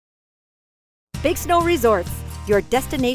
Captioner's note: voiceover